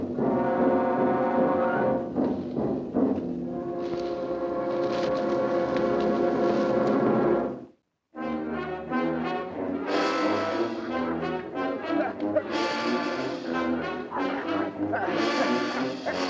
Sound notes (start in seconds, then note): 11.6 groans